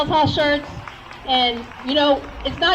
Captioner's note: crowd cheers